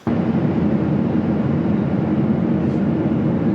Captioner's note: plane revving